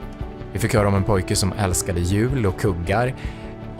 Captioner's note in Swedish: Mansröst